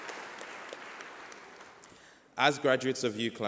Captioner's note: applause